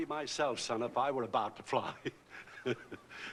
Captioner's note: chuckling